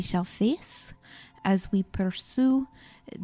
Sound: none

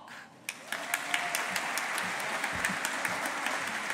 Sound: audience applauding

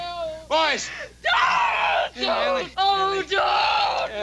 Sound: Ellie screaming

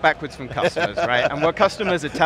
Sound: laughing

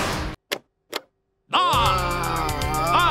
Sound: groaning

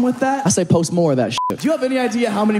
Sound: beep

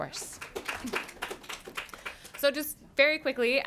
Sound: applause

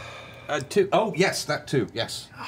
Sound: sighs

